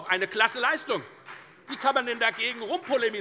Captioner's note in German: Beifall bei der FDP